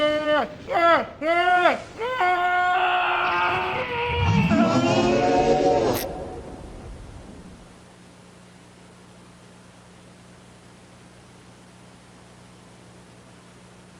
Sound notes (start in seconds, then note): 0.0 Vinny groaning; 3.6 Vinny screaming; 4.5 creature roars; 7.9 static humming